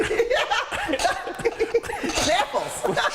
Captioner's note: laughing